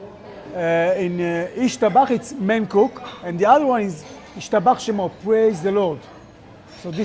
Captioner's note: speaking Hebrew